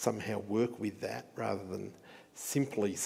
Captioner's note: none